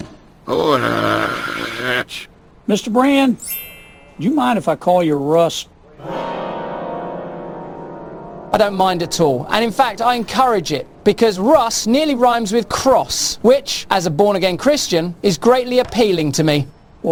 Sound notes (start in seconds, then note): 0.0 inarticulate growling